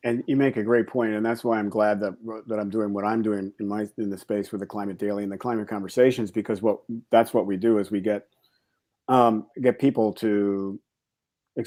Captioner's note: fast speech